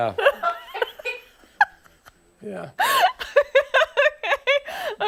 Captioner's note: laughter